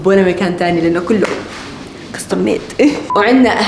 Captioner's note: laughs